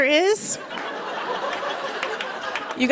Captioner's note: laughter